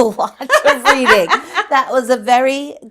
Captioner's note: laughing